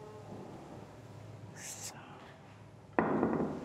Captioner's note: quietly